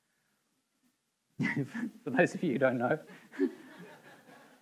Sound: laughing; audience members laughing

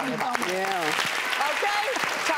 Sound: audience applauds

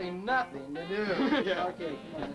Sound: chuckles

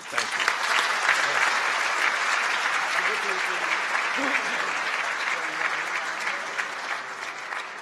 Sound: applause

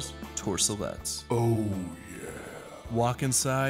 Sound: deep Voice

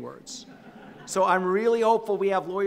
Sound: audience laughing

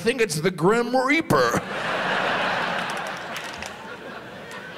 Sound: audience laughs

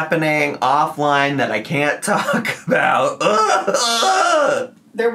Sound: groans

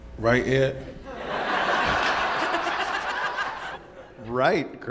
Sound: audience laughing

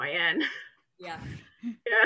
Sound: laughs

